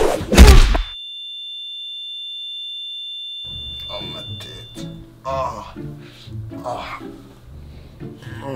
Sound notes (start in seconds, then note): 0.1 thud